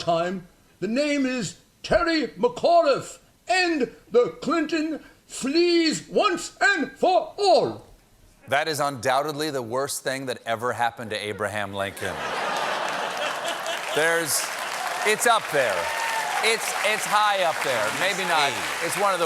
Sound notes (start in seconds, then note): 11.9 laughter; 12.4 applause